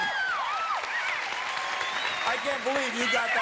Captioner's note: cheers and applause